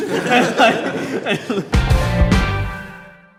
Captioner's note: laughs